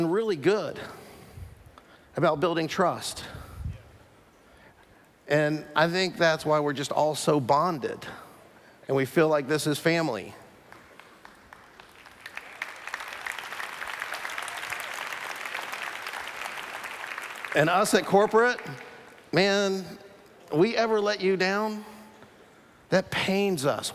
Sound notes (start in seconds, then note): 10.6 applause